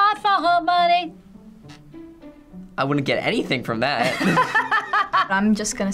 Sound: laughing

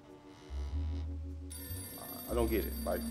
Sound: phone rings

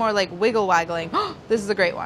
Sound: gasps

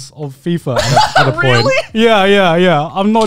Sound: laughs

